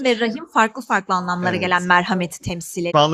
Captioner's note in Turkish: boğazını temizler